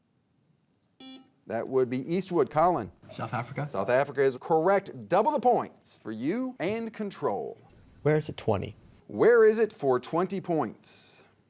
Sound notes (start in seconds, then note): 1.0 buzzer beeping